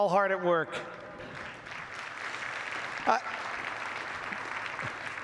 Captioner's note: audience applauds